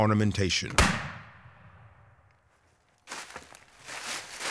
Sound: gunshot

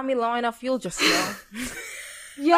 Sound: both laugh

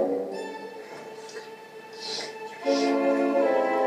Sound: slurping

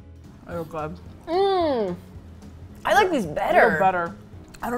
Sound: in disbelief

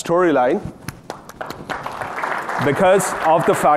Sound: audience applauding

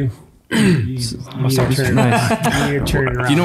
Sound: chuckling

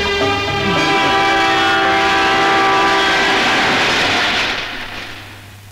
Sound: train horn blares

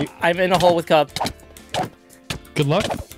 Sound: fighting thwacks

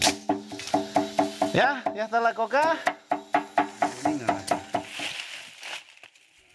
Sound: speaking in foreign language

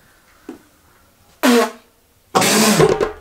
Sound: spits

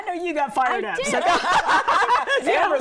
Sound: group laughing

